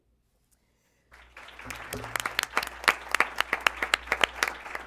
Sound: applause

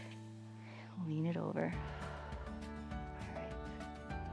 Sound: exhales

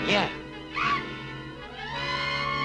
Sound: bat shrieks

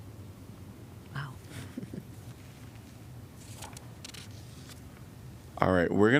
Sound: laughter

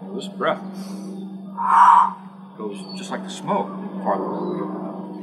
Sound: inhale, exhale

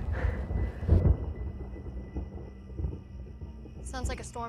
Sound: thunder in distance

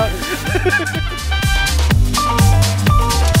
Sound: laughs

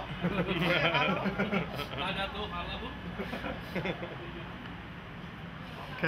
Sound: laughter

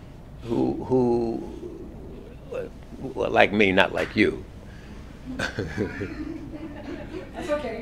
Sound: laugh

